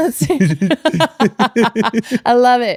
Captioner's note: laughing